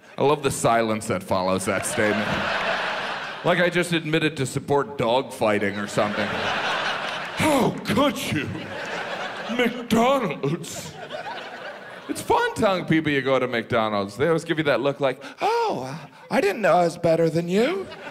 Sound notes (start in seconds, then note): 1.5 audience laughs; 6.4 audience laughs; 8.5 audience laughs; 17.5 audience laughs